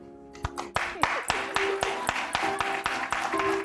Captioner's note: applause